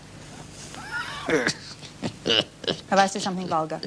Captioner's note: laughs